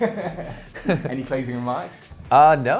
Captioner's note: laughs